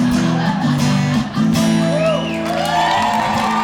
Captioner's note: crowd cheering; guitar chords